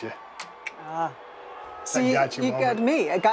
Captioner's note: clicking tongue